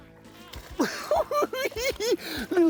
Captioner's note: giddy laughing